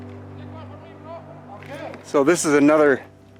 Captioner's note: gentle music continues; tourists chattering